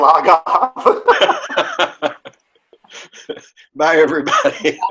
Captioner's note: laughing